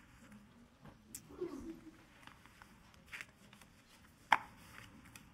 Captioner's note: people chattering faintly